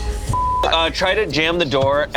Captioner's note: beep